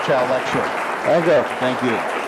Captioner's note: audience applauds